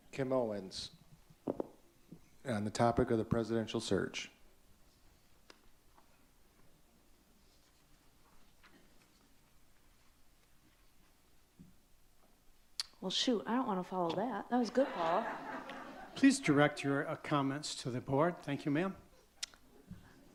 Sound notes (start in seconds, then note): 14.7 audience laughs